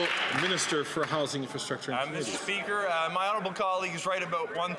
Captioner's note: some Applause